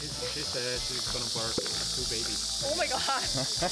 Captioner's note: cicada making sound